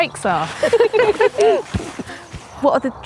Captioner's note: ladies laughing